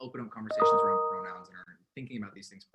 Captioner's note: chime drowns out speech